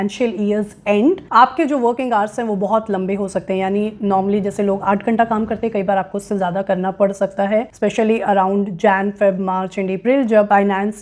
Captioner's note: speaking hindi